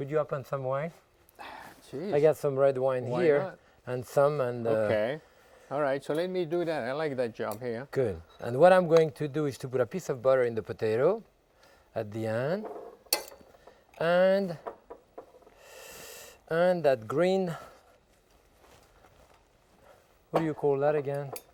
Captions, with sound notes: - Could you open some wine? - Geez, why not? - I got some red wine here. - Okay. All right, so let me do that. I like that job here. - Good. And what I'm going to do is to put a piece of butter in the potato at the end. (knife clinking) And that green, what do you call that again?